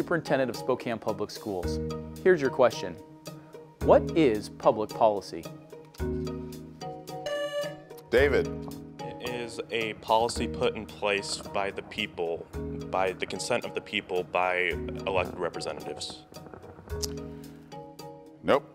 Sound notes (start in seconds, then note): 7.2 buzzer beeps